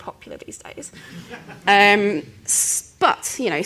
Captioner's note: laughter